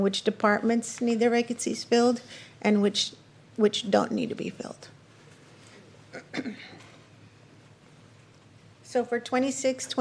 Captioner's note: clears throat